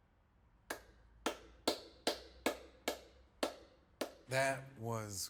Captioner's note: hands clapping